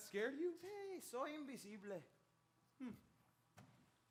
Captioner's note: speaks in Spanish